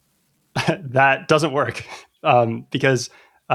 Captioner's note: laughter; uh